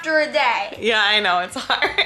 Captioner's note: laughs